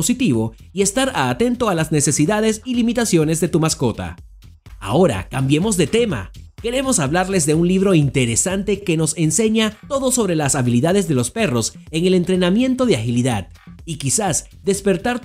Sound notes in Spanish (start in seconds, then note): 4.7 voz entusiasta